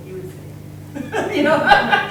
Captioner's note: everyone laughing